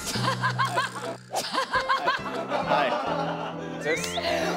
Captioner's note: cracking up